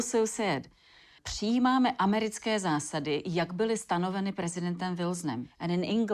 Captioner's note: speaking in Czech